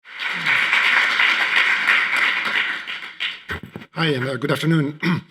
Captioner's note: audience applauding